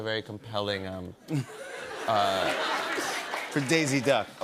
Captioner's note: laughter